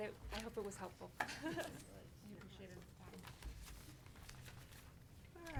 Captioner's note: speaking faintly